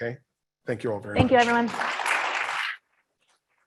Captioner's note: audience applauds